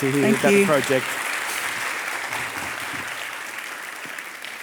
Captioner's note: audience applauding